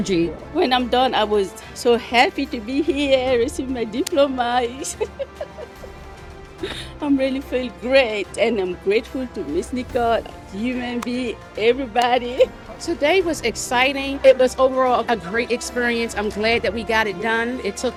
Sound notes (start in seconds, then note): 4.8 laughing